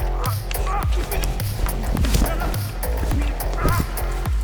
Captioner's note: intense scuffling; cloth ruffling